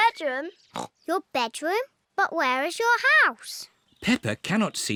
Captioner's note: snorts